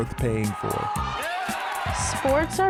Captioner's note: crowd cheering